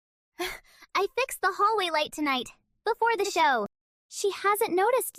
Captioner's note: breath